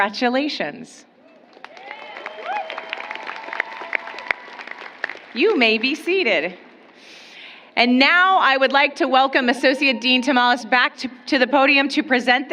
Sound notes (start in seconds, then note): 3.2 applause